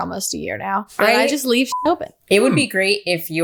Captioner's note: beep